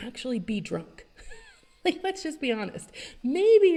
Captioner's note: chuckles